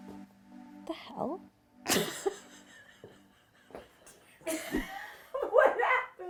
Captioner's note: laughs